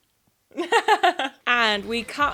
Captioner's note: chuckling